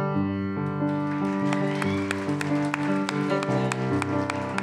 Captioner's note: applause